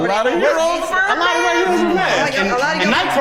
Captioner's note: laugh